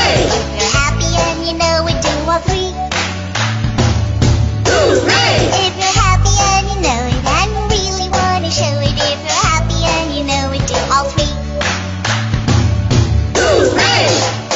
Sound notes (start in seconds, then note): 2.9 clap clap stomp stomp Hoo-Ray; 11.6 clap clap stomp stomp Hoo-Ray